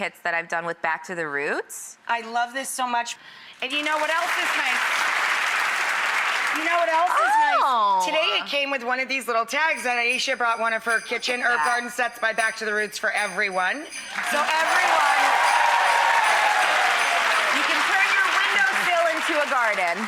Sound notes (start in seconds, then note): 3.6 applause; 14.0 applause